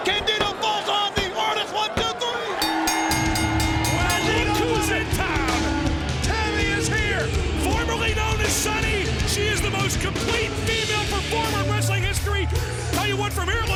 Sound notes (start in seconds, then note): 2.9 bell rings